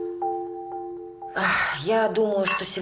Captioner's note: sighs